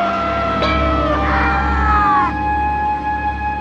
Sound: men shout

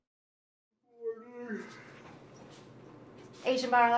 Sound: yawning

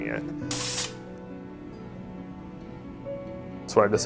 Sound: gas hissing

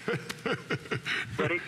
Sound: laughter

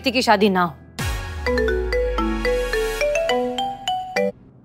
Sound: phone ringing

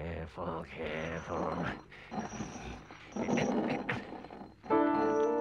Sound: trap clangs; mysterious music

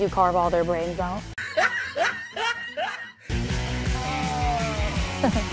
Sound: laugh

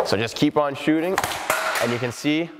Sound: puck slaps

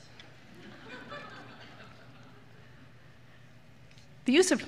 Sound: laughter

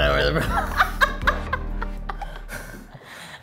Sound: laughing

